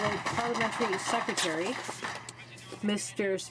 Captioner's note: some Applause